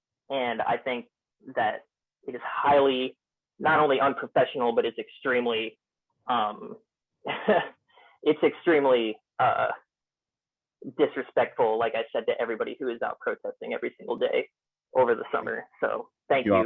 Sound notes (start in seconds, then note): 7.2 laughter